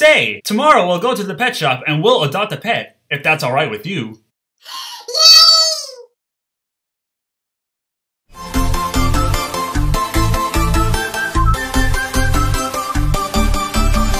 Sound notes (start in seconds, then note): 4.6 gasps; 8.4 upbeat music